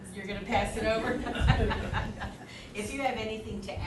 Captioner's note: laughing